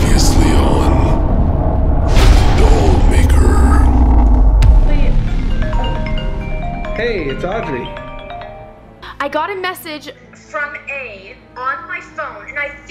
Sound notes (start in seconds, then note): 6.3 phone rings